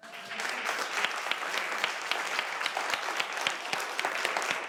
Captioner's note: audience applauding